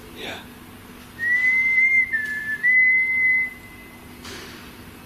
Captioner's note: whistling